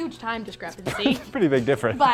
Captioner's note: laughs